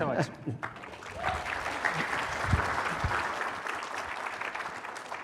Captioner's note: applause